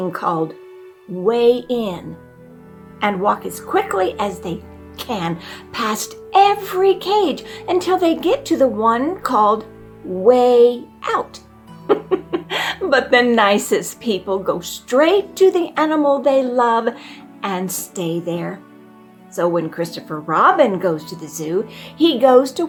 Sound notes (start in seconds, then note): 11.8 giggle